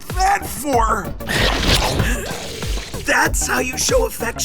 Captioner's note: 2Bells growling